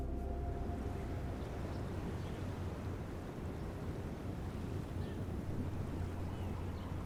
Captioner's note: gentle music; wind whistling